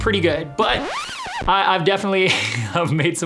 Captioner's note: record squeaks